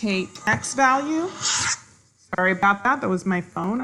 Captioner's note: swoosh